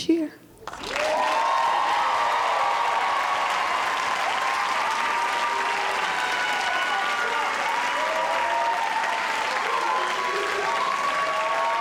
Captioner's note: audience cheering